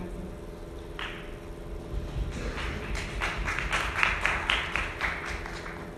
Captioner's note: audience members clapping